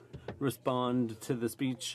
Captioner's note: speaking French